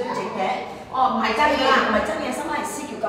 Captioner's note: Cantonese